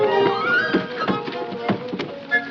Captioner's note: thudding